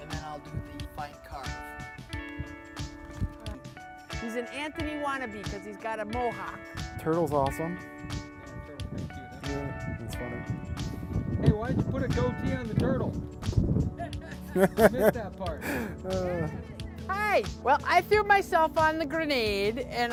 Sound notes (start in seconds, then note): 10.2 speaking faintly; 13.9 laughing